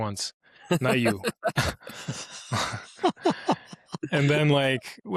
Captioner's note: laughter